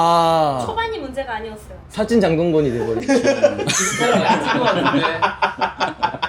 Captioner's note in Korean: 웃음